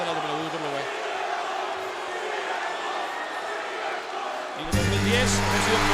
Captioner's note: applause